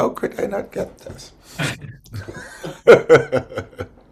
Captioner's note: laughs